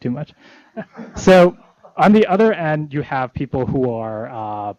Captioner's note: laughter